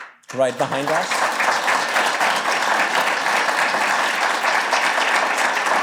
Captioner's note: applause